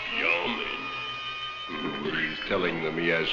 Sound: speaking in a foreign language

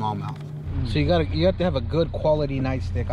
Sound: boat engine running

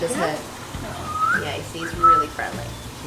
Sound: whistles loudly

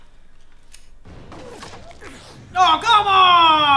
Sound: gunfire

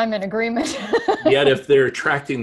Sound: laughs

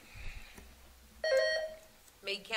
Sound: buzzer sounding

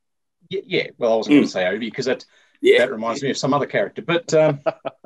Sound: laughter

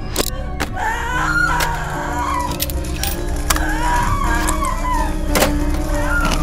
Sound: screaming

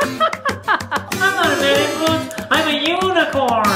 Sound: laughter

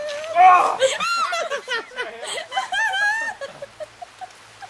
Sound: lauging becomes meaner

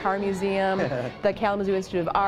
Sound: chuckles

